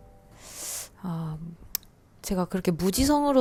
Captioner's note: inhales